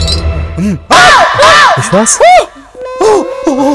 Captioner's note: Vishwas screams